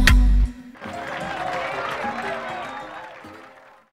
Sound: people clapping

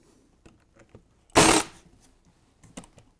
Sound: staple gun

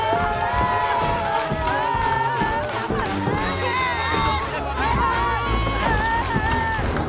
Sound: screaming

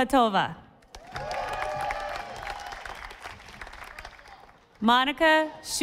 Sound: audience applauding

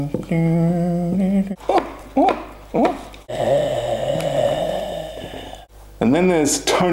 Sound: humming; sexsual noises

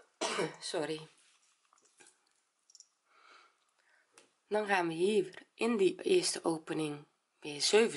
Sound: cough

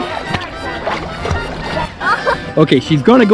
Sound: water splashing

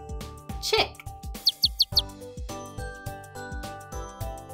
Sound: chick chirping

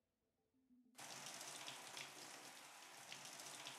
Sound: water running

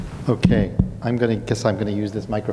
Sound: thumps mic

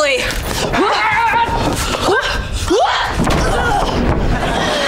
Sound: grunting

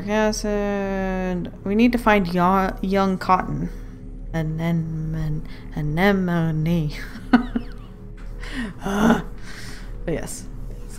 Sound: laughs

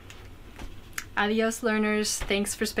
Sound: foreign language

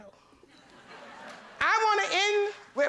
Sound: laughter

